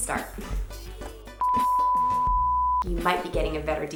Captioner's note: loud beeping